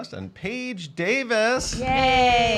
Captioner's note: mimicking drumroll